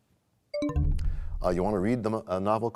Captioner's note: bell chimes, time expires